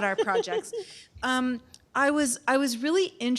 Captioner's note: laughter